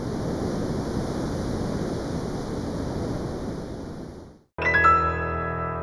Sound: surf roaring

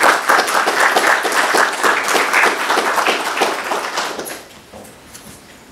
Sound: applause

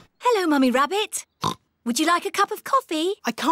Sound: oinks

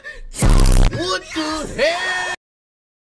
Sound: "WHAT THE HELL" meme sound

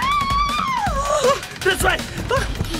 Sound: screams

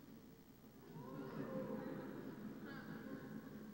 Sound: audience murmurs

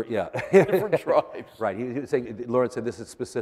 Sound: laughter

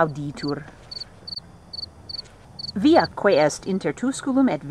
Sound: crickets chirping

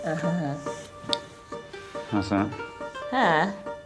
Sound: muttering

